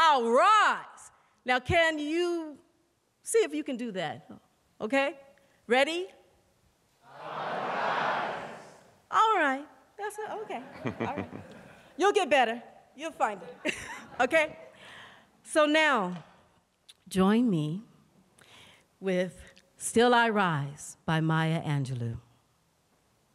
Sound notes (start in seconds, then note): 13.4 laughter